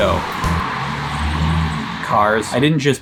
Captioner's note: traffic zooming